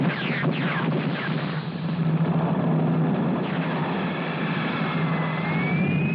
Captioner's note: none